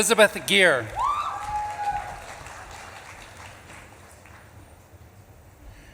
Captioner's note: audience claps and cheers